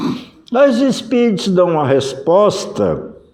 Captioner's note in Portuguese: limpando a garganta